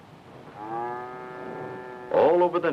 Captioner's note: cows mooing